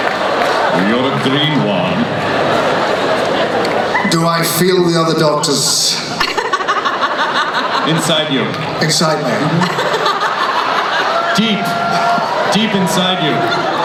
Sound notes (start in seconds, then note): 5.9 laughing